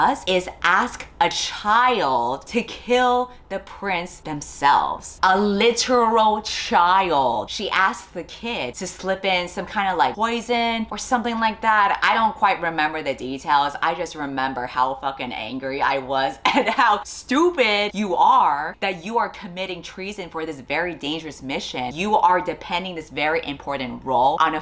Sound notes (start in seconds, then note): 16.4 laughs